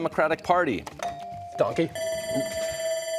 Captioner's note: timer sounding